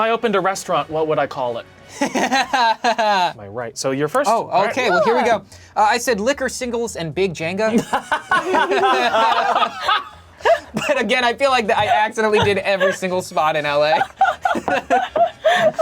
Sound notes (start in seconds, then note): 2.0 laughs; 7.7 all laughing